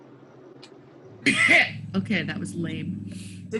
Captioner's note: coughs